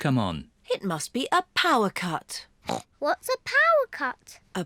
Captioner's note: grunts